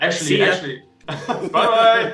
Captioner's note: laughing